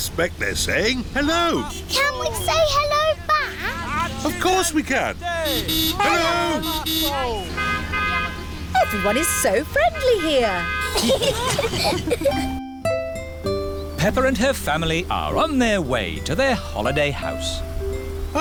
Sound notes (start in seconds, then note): 6.0 honking; 8.1 italians honk back; 10.8 all giggling